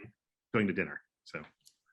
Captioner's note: speaking faintly